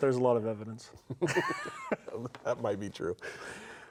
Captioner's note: laughs